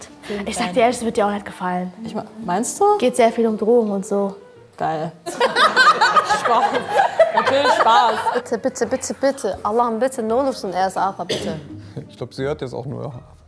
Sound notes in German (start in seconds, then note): 5.3 Lachen; 10.1 Sie spricht in einer anderen Sprache